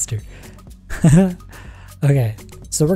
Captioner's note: laughs